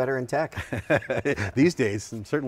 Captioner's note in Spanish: Risas